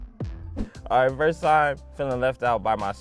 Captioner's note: graphic whooshing; text whooshing